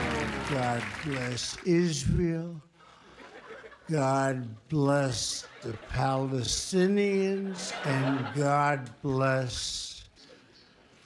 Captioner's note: tape slowed down